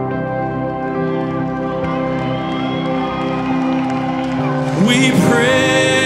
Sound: audience cheering

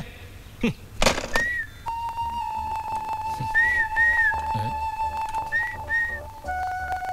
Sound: whistling

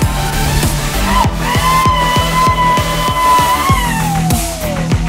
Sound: audience cheering

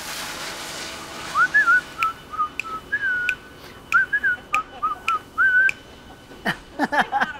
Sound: whistling

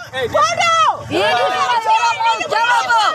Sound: shouting

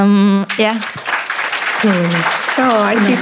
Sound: audience applauds

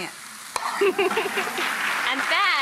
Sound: clapping; laughs

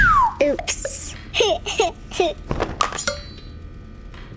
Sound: laughing

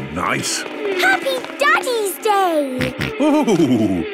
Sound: snorting

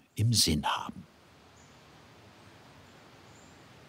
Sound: whistling wind, birdsong

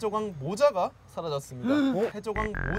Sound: acting tone

